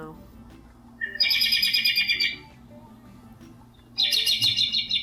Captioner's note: robin chirping